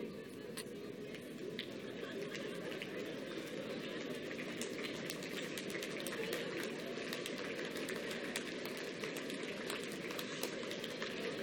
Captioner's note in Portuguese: Palmas